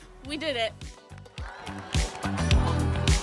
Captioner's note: crowd cheering